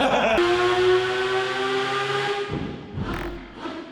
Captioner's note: laughing; engine revving